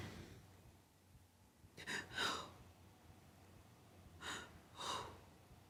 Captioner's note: breathes heavily